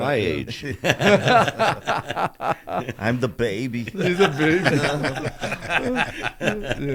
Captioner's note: laughter; in a leh leh voice